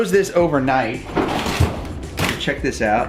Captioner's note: opening freezer drawer